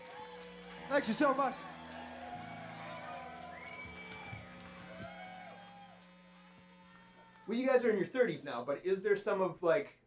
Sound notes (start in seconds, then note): 0.0 applause; 2.4 cheers, whistles, & applause